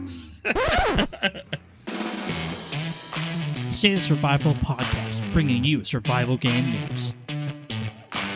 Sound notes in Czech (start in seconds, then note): 0.1 smích; 0.4 nahrávka škrábnutí